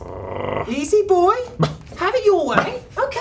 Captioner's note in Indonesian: menggeram; Menggonggong agresif yang pasif